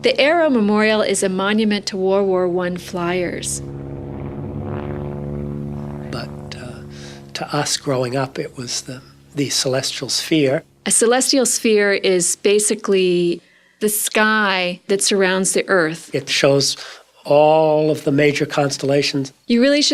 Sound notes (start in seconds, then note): 3.8 plane engine